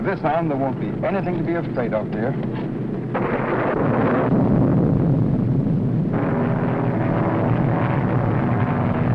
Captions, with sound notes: - With this on, there won't be anything to be afraid of, dear. (plane whirring) (thunder rumbling) (plane whirring)